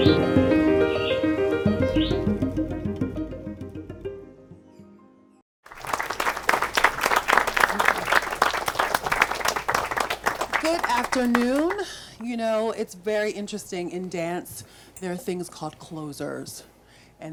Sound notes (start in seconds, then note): 5.6 audience claps